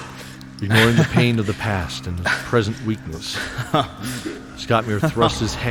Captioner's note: weak chuckle